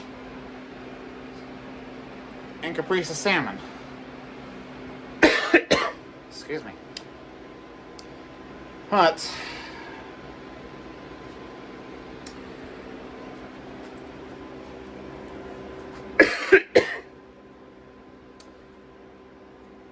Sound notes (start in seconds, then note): 5.2 coughs; 16.2 coughs again